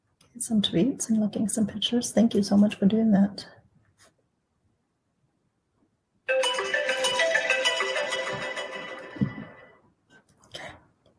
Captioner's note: timer sounds